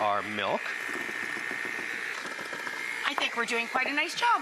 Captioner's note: mixer noises